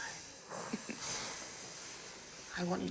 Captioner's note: laughing